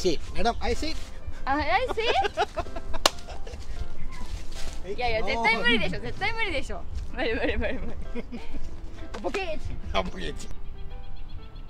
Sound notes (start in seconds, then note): 4.0 laugh